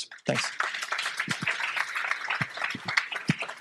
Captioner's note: applause